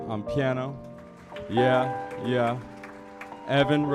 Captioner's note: audience applauding